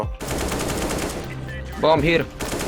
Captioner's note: gun fires